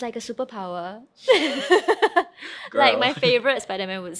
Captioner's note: laughing